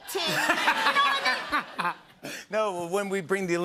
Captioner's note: laughter